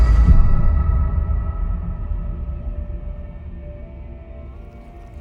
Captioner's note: chanting; strange rustling